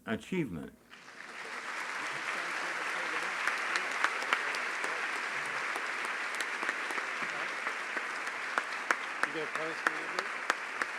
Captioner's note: applause